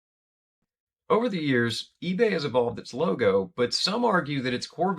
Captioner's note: voiceover